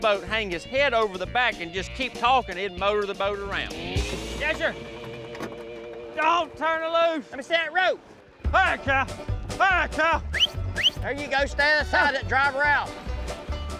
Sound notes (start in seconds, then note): 4.1 splashing; 10.2 whistling